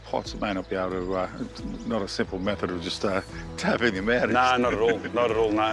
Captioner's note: chuckles